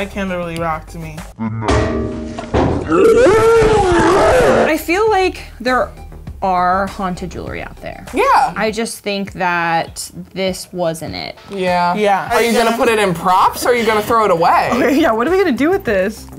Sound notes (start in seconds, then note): 1.6 candle banging; 2.8 all screaming